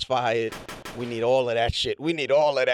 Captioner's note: gunshots